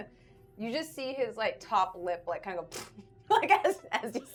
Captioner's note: lips smacking